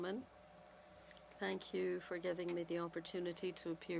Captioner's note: speaking French